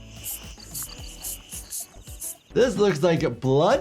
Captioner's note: pump hissing